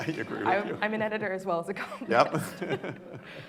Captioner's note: laughing